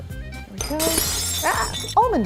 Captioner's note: glass breaking